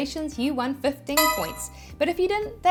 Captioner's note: bell chiming